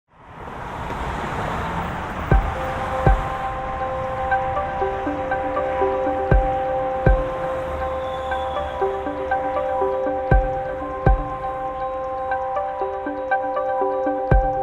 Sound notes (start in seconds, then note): 0.1 cars zooming; 2.5 gentle music